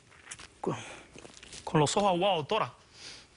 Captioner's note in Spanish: ahoga los sollozos